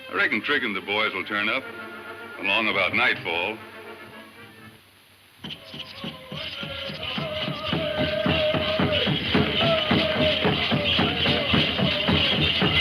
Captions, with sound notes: I reckon Trig and the boys will turn up along about nightfall. (drum music) (men chanting)